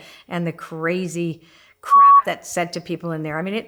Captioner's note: beep